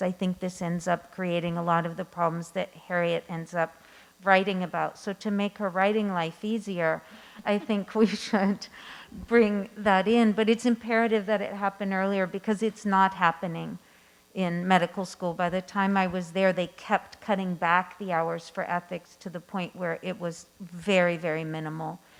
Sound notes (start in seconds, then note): 9.5 laughing